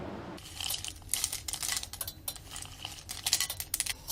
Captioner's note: crackling